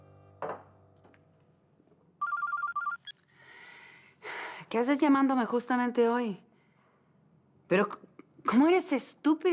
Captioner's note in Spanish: Suena el celular